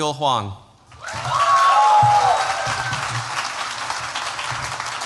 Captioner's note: cheers, applause